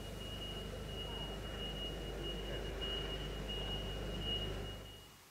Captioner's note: beeping of machine